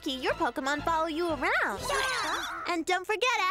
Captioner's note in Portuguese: todos balbuciando